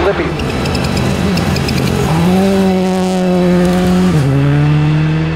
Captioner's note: car engine revving